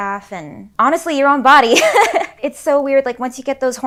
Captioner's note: chuckles